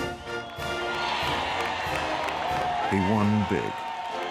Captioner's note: cheers and applause